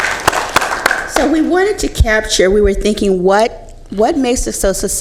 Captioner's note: applause